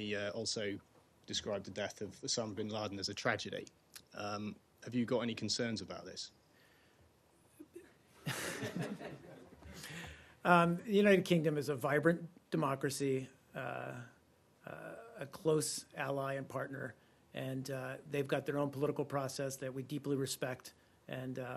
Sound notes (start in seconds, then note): 8.2 laughter